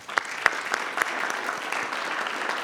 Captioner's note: applause